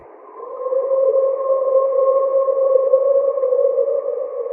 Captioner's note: creature howling